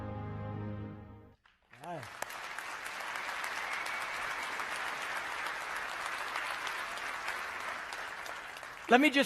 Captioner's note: applause